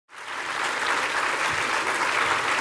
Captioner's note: applause